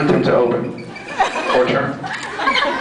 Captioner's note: scattered laughs